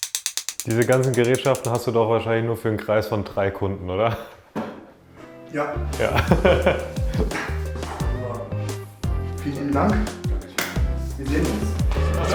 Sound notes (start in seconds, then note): 6.0 laughter; 7.7 dynamic Music